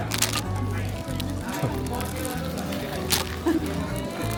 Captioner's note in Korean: 어이없었는지 웃음